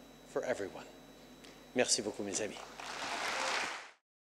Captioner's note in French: Applaudissements